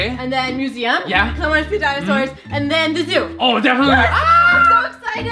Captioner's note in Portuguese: grita de alegria